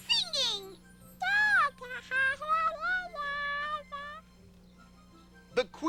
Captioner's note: babbling